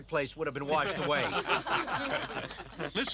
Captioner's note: all laughing